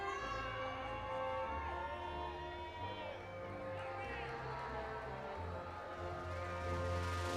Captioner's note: audience continues applauding and cheering